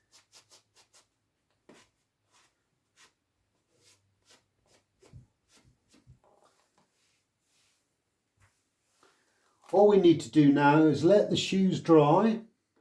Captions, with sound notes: (cloth rubbing) All we need to do now is let the shoes dry.